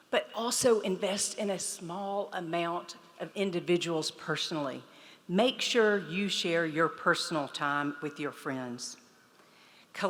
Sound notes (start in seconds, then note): none